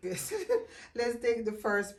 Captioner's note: chuckling